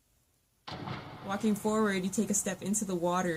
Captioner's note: water splashes